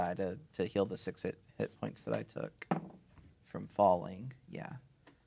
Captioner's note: dice rolling